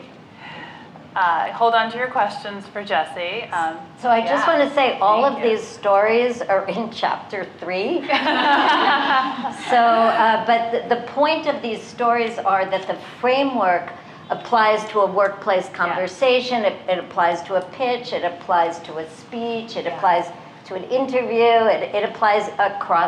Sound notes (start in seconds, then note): 8.0 laughter